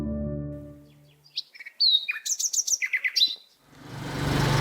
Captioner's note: bird bird chirping